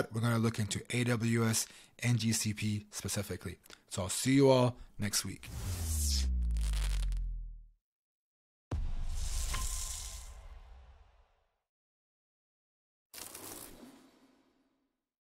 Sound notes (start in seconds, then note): 5.4 slide whooshing; 5.5 lightning crackling